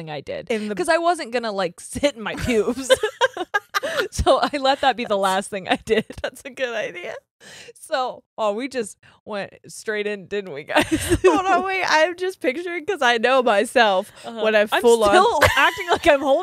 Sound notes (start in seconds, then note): 2.4 both laughing